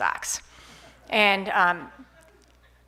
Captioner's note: laughs